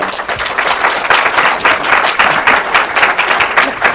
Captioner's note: audience clapping